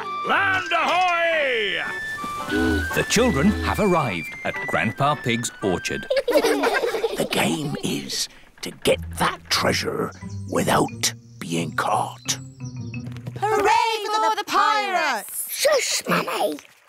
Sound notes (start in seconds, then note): 6.0 all giggle; 7.3 whispers